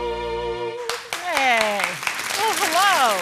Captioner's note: audience applauding